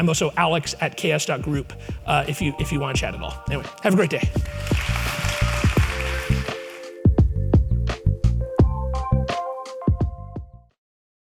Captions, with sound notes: I'm also alex@ks.group, if you wanna chat at all. Anyway, have a great day. (audience applauds) (upbeat music)